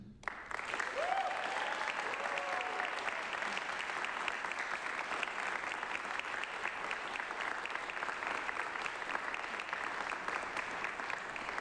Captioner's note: applause